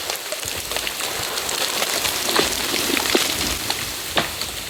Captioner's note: tree rustles